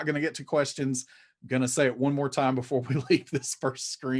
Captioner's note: chuckling